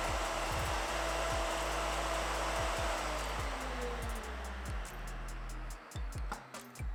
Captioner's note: applause